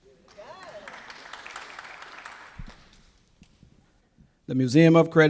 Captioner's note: applause